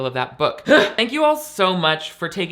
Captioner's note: grunting